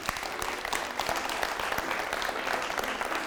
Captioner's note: people clapping; soft music